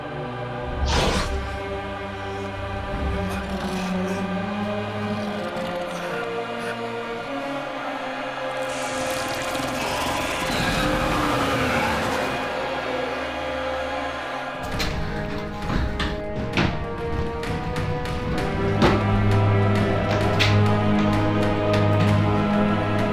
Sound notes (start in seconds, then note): 0.1 growling; 14.6 doors thudding; 15.0 tense orchestral music